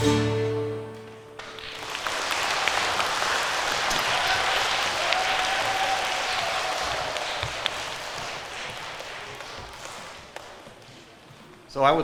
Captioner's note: applause